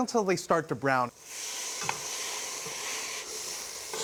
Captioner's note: sizzling